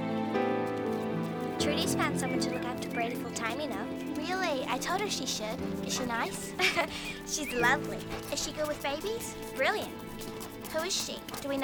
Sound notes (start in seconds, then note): 6.7 laughs